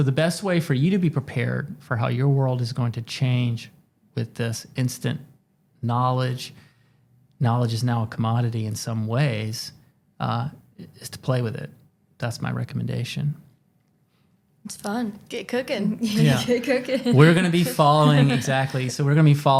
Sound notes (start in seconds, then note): 16.3 chuckles